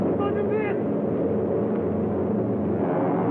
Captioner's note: shouting